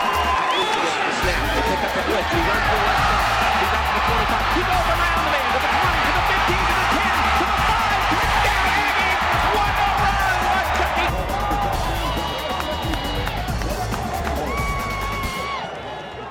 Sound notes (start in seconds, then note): 0.0 crowd boo-ing, cheers; 2.6 cheering